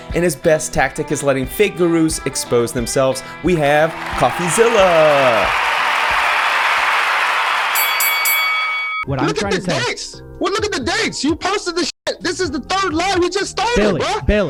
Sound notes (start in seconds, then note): 5.1 crowd cheering; 7.7 bell dinging